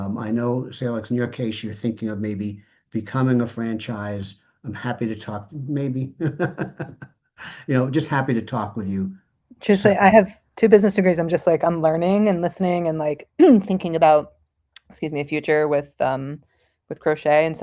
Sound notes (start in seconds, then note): 5.7 laughs